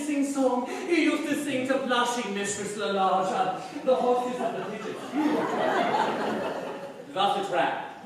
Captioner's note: laughter